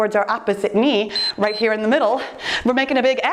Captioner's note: timer beeps